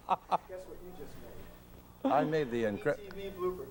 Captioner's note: still laughing